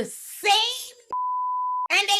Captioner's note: beep